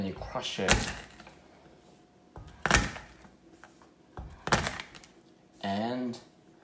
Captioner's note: crushing sound